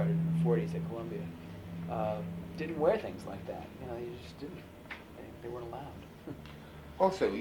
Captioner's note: laughs